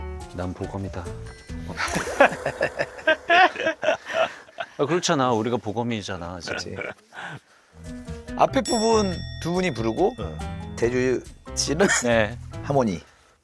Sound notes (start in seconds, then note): 6.4 laughs